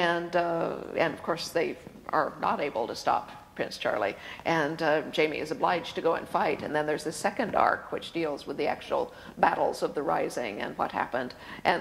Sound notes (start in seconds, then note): none